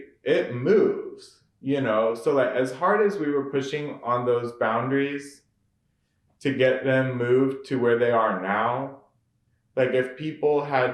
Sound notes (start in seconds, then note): none